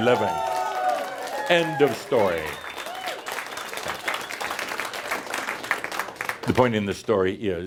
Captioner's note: audience cheers and applause